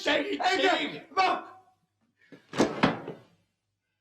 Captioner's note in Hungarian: Liszt egy utolsót kiált; puffanás, csend